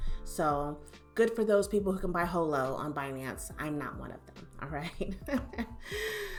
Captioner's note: chuckles